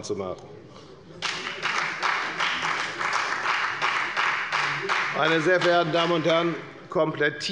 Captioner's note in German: Beifall bei der FDP